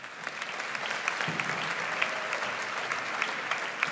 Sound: audience applauds

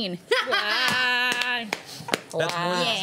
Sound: cheering

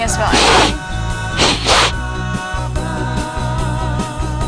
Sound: sniffing

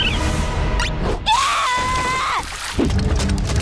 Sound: screaming

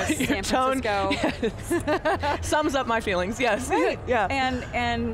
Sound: both laugh

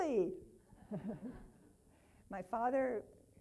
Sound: laughing

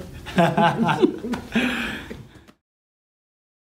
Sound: laughing

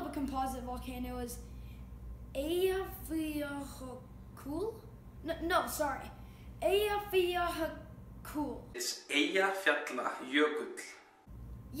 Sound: icelandic guy talking

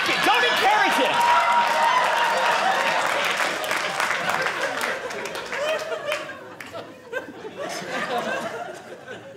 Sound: audience applauding

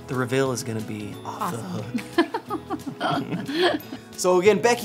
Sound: laughs

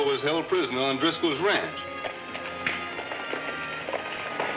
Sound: horse galloping

